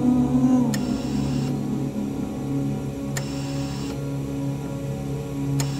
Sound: breathing machine pumping

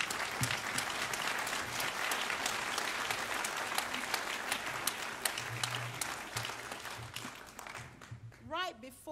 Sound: applause

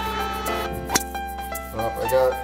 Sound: golf stroke

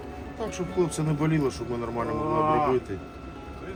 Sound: groaning

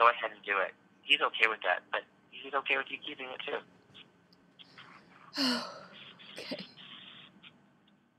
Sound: crying

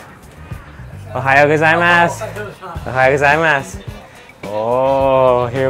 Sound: speaks in foreign language

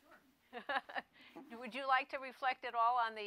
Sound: laughs

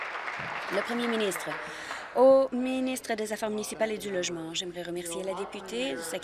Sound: applause

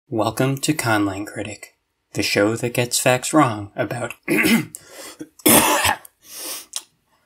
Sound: ahem

